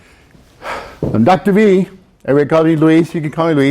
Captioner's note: sighs